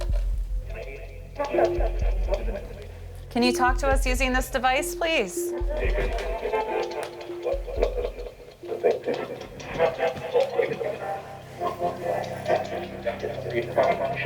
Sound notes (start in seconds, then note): 5.7 static and muffled voices coming from radio; 8.6 ominous music